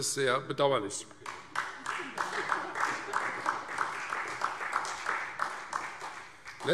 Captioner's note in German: Beifall Freie Demokraten und vereinzelt SPD